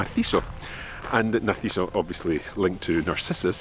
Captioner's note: speaks in foreign language